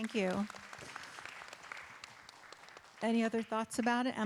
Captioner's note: audience and performers applaud